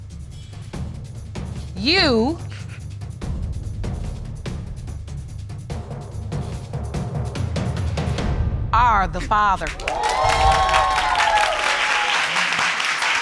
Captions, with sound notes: You... Are the father. (AUDIENCE CHEERING)